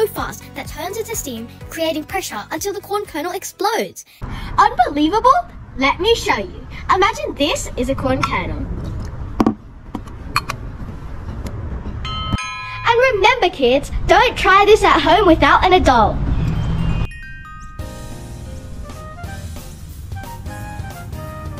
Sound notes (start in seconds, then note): 12.0 ding dong sound; 16.8 breezy music